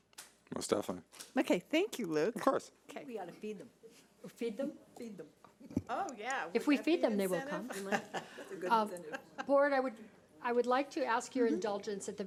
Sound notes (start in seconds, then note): 7.4 laughing